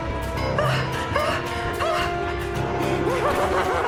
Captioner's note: Helen whimpering; Karen laughing